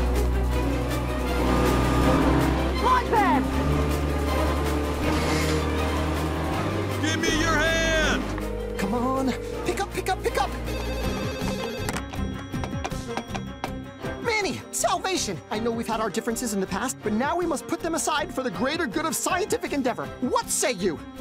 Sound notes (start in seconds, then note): 7.9 phone line ringing; 11.5 phone ringing; 12.4 hoof tapping